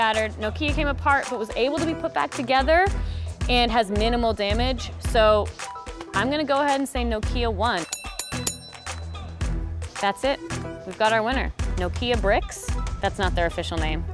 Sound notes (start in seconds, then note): 7.8 bell ringing